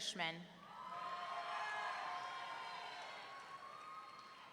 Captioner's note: audience cheering